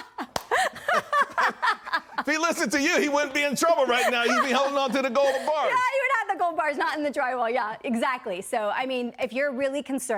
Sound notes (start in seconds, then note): 5.7 laughter